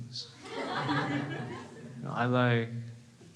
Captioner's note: crowd laughs